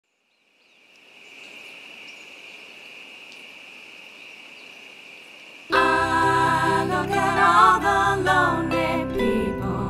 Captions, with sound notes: [night sounds, crickets] Ah, look at all the lonely people....